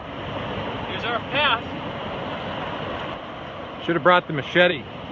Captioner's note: water rushing